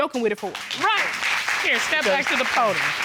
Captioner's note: audience applauding